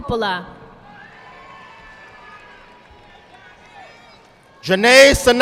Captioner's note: audience clapping